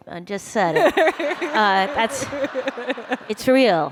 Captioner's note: laughter